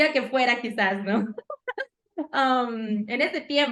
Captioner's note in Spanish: Risas